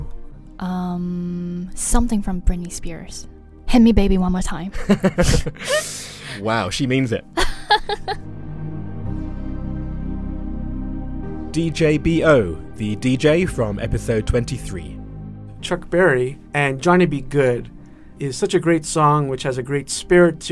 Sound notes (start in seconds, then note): 8.1 voiceover